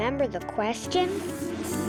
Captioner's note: whooshing sound